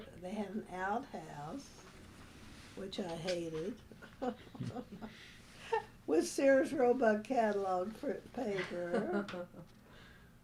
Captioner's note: laughter